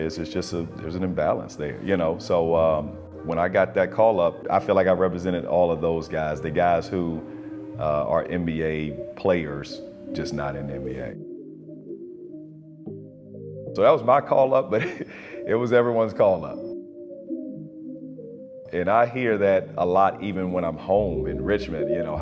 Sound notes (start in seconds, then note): 14.7 chuckles